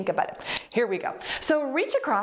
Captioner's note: timer beeps